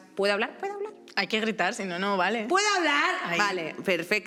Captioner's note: shouts